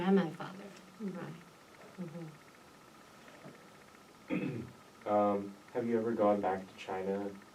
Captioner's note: clears throat